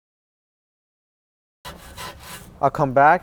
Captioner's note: brushing sound|